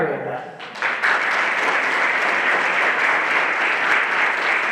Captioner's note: everyone applauding